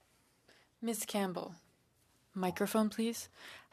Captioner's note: speaking French